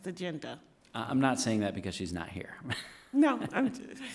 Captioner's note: laughs